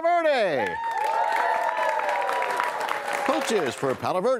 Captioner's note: cheers and applause